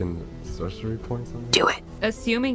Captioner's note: whispered